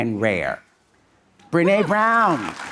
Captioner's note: audience applauding